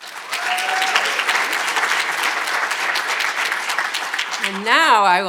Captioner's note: audience applauding